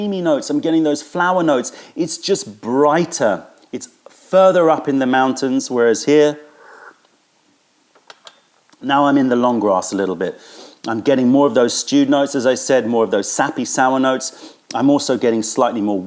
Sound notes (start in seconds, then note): 6.6 sips tea